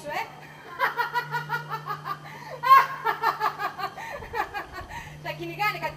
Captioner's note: γέλιο